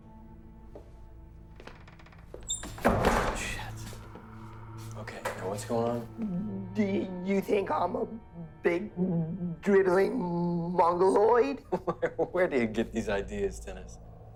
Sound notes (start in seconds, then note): 11.1 laughs